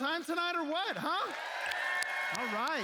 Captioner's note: cheers